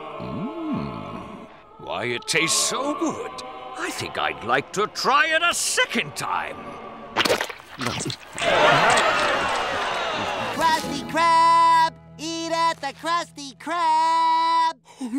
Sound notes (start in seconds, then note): 7.2 spitting; 8.3 crowd yelling in disgust